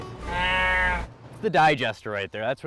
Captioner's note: cow mooing